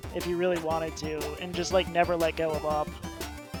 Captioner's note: none